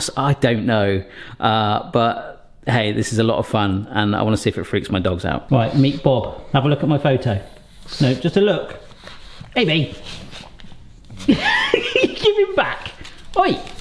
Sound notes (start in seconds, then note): 11.1 laughs